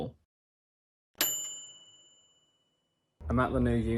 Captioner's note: bell dinging